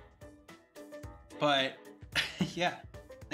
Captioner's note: chuckle